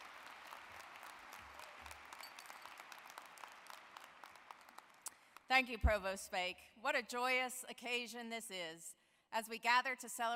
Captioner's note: applause